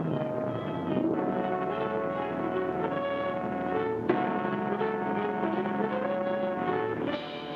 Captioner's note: boat hums; dramatic music